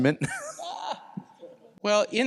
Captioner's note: laughs